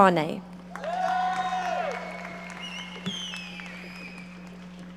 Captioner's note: audience applauding